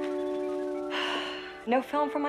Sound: sighs

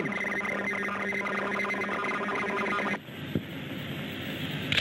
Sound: radars beeping

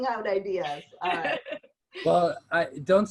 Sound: laughter

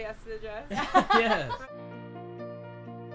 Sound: laughing; dramatic piano music

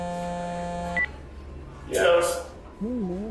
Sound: phone buzzing; phone beeps

